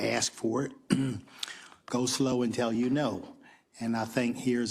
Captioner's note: cough